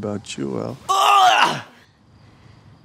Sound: retches

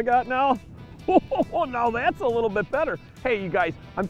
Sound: laughs

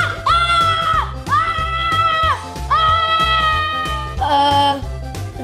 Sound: screaming

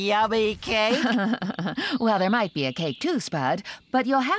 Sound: chuckling

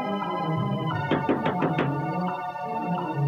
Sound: door knocks

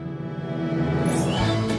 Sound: chimes

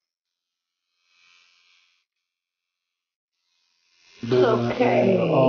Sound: tattoo needle buzzing

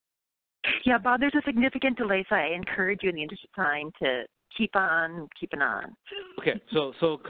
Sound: laughs

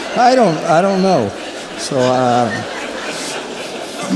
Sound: laughter

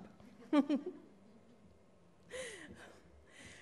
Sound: laughs

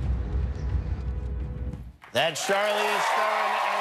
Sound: cheers and applause

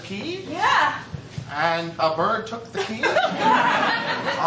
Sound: laughter

